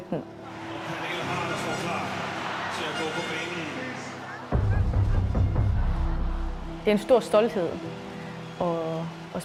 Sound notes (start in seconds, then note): 4.0 Pernille laughs